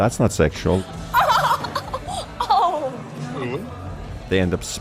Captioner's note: short audio clip from movie of woman laughing in shock